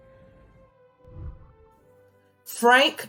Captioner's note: whooshing